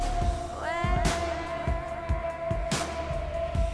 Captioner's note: echoing